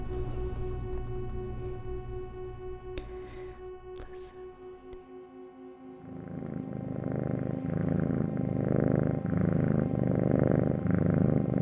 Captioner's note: low purring